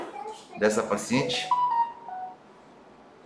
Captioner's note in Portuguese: som de celular